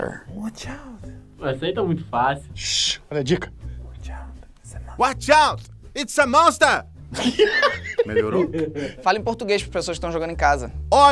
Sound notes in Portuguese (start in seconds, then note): 2.9 shhh; 4.9 gritando; 7.1 risadas